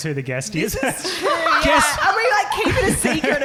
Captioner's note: laughing